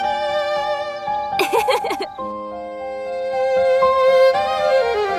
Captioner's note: girl laughs